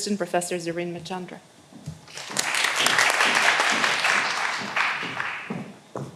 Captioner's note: all applauding